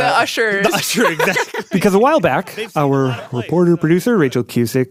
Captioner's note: laughs